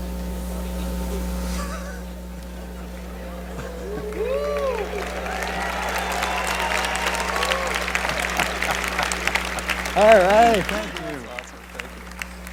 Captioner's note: laughter; cheering and applause